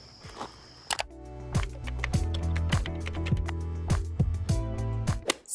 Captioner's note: keyboard typing